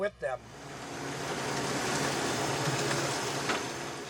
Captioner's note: crane humming